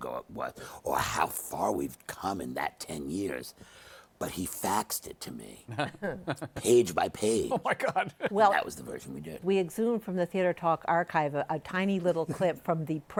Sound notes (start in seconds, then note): 5.7 laughter